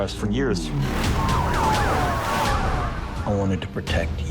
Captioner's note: sirens wailing